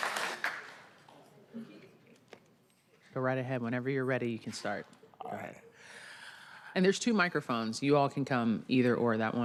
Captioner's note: applause